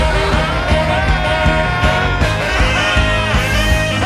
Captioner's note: laughs